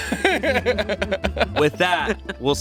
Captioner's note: everyone laughs